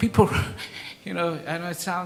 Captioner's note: laughs